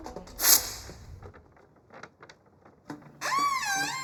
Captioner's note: paper ripping; kazoo blaring